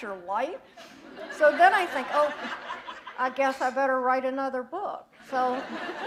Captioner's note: laughter